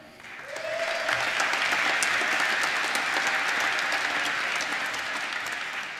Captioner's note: applause